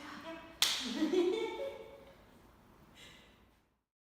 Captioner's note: laughs